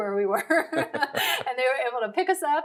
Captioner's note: laughing